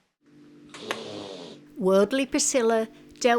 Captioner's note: hiss